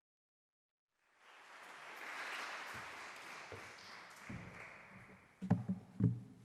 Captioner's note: applause